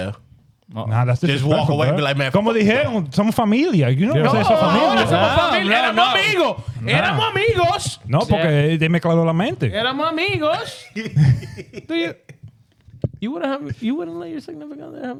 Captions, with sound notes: Yeah. Yeah. (Speaking In Foreign Language) (Laughing) You wouldn't let your significant happen.